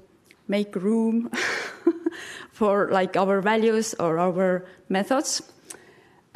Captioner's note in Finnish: chuckles